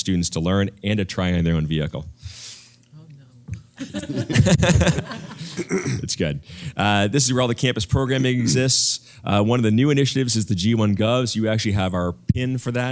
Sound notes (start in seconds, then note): 3.8 laugh